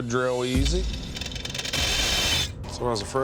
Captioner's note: grinding noise